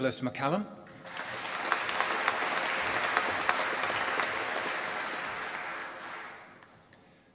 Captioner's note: applause